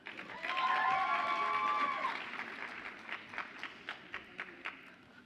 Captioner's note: audience applauds and cheers